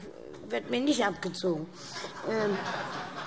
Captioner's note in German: Allgemeine Heiterkeit